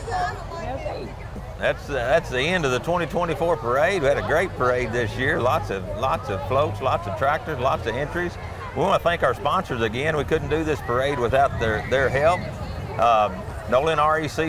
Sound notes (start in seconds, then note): 1.1 chattering continues